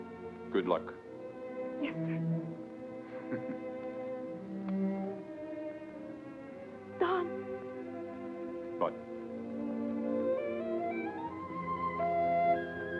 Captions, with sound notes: Good luck. - Yes, sir. (Don chuckles) Don. - What? (gentle music)